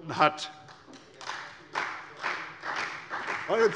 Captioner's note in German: Beifall bei der CDU und dem BÜNDNIS 90/DIE GRÜNEN